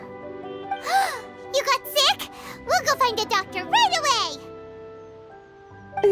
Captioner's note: gasp